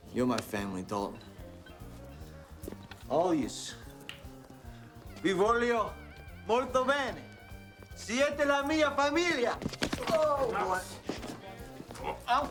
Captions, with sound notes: You're my family, Dalton. All yous. (Castellano speaks Spanish) Oh!